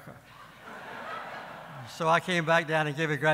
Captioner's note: audience laughing